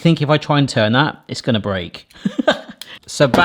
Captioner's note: laughs